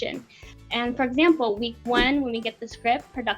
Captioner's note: air whooshing